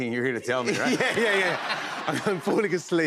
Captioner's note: laughter